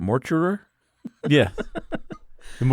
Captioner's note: laughs